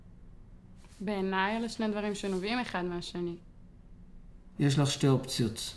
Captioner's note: speaking foreign language